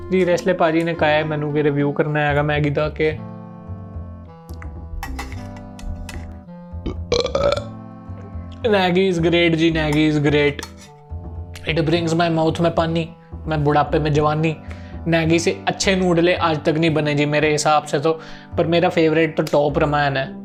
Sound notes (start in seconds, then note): 6.8 burps